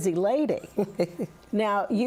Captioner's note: chuckles